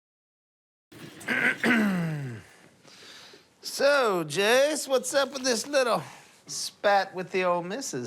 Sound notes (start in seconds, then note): 1.2 clears throat